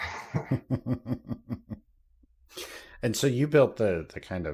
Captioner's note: laughter